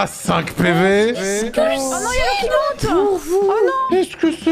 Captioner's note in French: chantonne